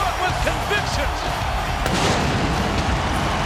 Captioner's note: pyrotechnics exploding; crowd cheering